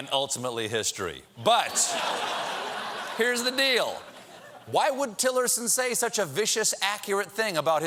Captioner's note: laughter